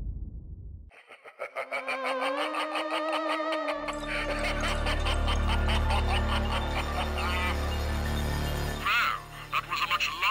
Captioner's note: laughter